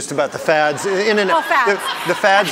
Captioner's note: audience laughing